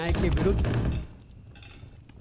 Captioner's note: banging on the door